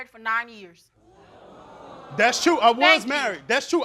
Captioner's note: crowd oohing